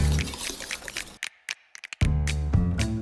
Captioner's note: whisk scraping; upbeat music